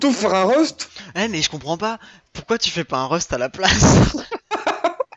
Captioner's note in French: rires